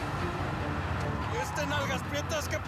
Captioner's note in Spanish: ruido del vehículo